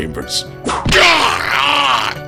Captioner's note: whip crack!